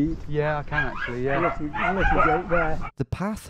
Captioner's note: farmer mumbling